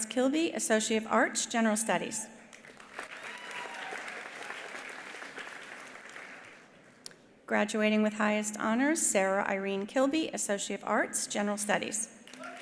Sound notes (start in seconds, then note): 2.6 attendees applauding; 2.9 attendees cheering